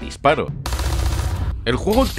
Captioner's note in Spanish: Disparos